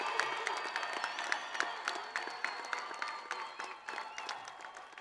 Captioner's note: crowd continues applauding